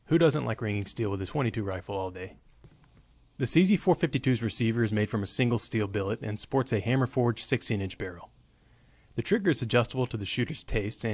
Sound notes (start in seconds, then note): none